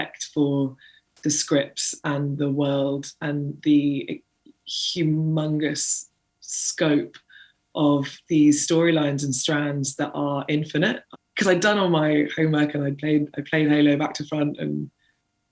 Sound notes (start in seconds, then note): none